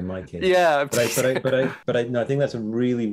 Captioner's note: laughs